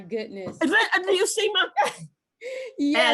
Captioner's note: laugh